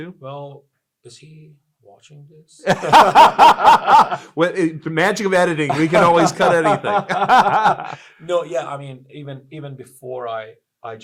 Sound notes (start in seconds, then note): 2.6 both laugh